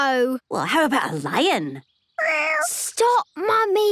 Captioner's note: small meow